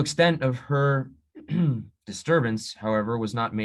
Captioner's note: little throat clear